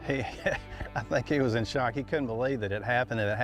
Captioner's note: laughs